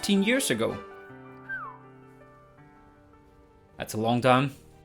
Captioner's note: whistle